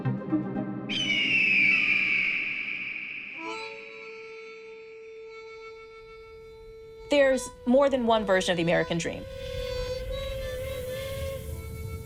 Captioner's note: soundbite of eagle screeching